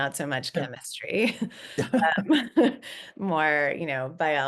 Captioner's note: laughing